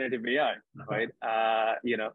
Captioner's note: chuckles